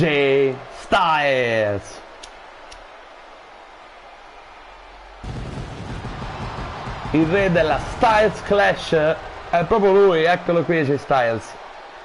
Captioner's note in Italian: Applauso